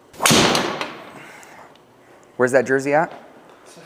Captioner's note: club smacks ball